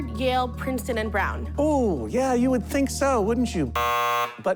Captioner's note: buzzer